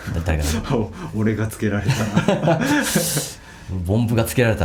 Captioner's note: laughs